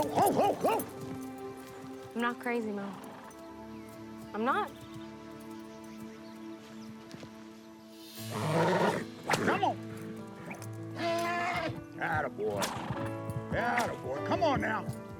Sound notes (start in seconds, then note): 10.9 horse neighs